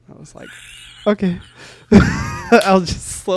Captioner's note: laughs